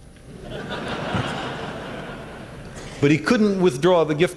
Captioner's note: laughter